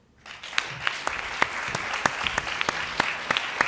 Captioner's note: applause